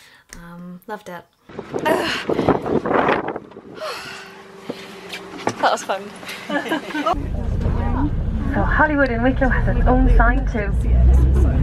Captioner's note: loud wind noise... stops when I climb on the bus; everyone laughs